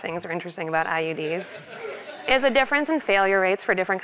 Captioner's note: laugh